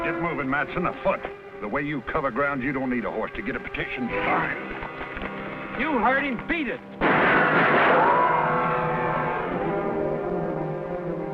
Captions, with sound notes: - Get moving, Mattson, afoot. The way you cover ground, you don't need a horse to get a petition signed. - You heard him, beat it. (gunfire)